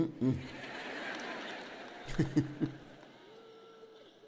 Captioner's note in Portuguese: audiência ri; audiência aplaude